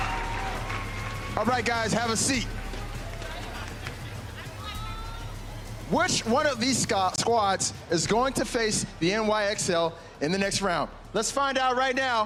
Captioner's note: applause